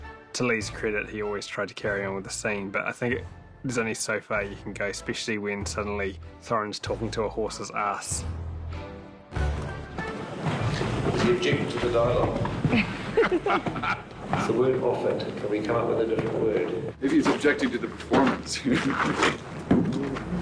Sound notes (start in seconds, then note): 12.6 all laugh